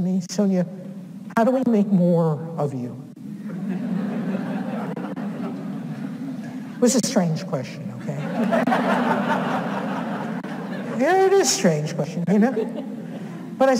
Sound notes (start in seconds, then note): 3.3 audience laughs